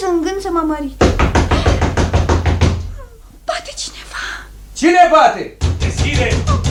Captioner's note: knocking loudly on the door